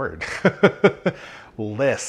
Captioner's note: laughs